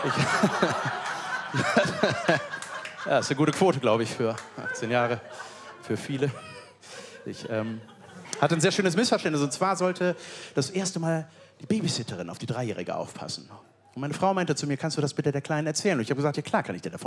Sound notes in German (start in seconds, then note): 0.6 Lachen